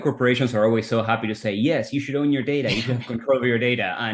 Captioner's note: laughs